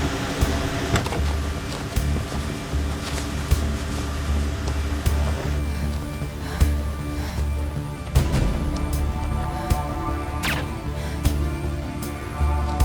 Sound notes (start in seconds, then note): 5.6 Ellie breathes uneasily; 10.4 guns firing